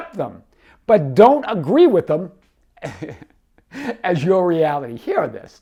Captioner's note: laughs